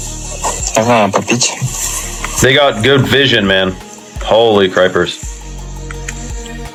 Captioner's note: russian dialogue